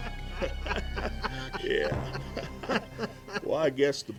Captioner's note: men laugh